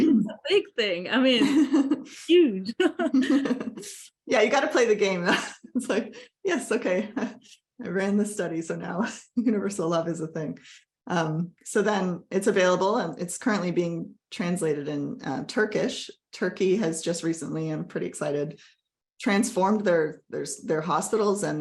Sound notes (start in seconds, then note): 2.7 laughter